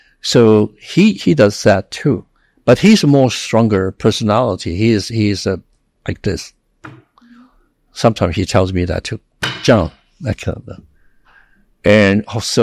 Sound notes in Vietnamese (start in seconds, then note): 9.4 đập bàn